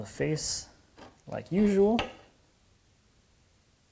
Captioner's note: knife on wood scratching